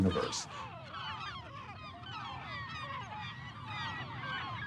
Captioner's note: birds squawking